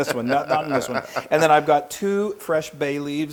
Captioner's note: laugh